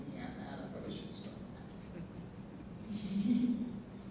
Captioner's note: panel laughing